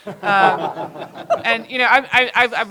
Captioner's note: laughter